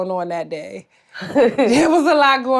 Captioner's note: Blac Chyna laughs